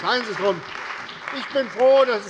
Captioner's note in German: Beifall bei der CDU und dem BÜNDNIS 90/DIE GRÜNEN